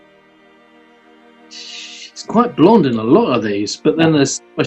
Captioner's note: exhales